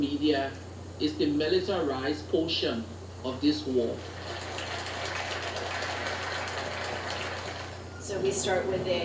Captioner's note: applause